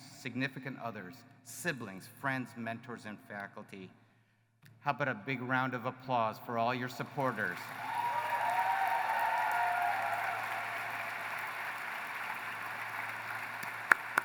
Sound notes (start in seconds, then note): 7.0 applause